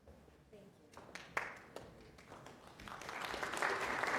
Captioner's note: applause